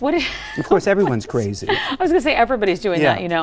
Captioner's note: laughs